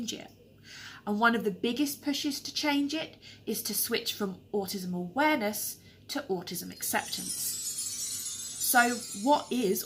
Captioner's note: tinkling sound